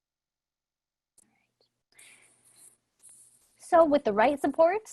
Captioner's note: silence